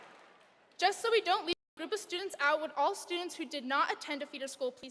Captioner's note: applause